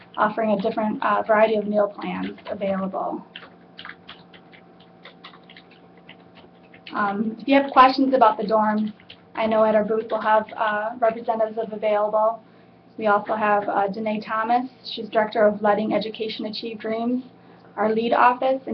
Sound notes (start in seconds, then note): 3.2 typing